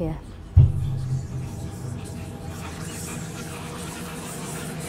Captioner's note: unsettling whispering